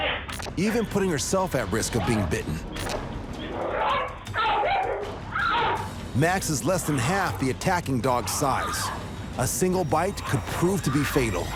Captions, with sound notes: even putting herself at risk of being bitten. [barking continues] Max is less than half the attacking dog's size. A single bite could prove to be fatal.